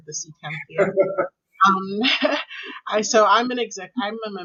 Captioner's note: laughing